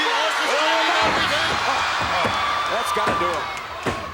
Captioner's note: commentators exclaim